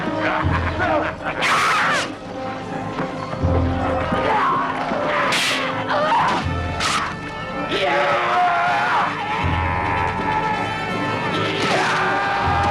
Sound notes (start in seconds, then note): 1.3 child shouts; 4.2 raider shouts; 5.3 swords clanging; 9.8 raider yelling